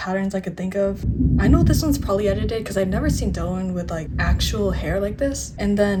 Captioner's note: thunder